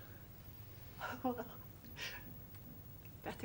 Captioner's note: JACKIE, sobbib-ng